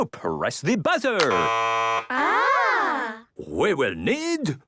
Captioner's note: buzzing